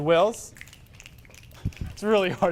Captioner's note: snapping of the exact same frequency